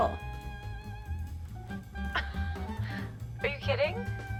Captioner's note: scoffs